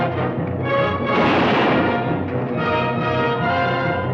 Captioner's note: dramatic orchestral music; gun fires